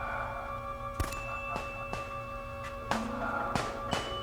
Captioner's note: laughing; guns firing